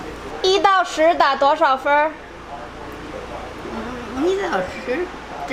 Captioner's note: grandma speaking Chinese; speaking Chinese; grandma speaking Chinese